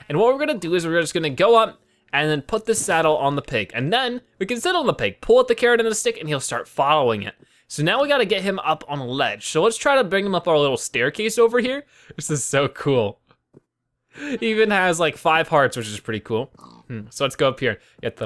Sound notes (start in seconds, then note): 14.2 laughs